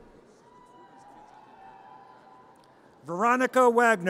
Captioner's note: audience cheers